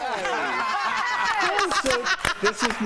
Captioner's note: applause; laughter